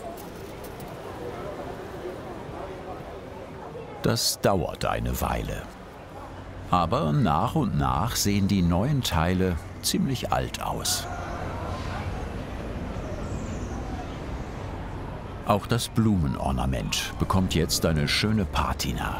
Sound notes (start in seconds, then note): 10.7 bubble of voices